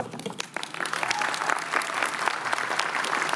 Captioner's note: cheering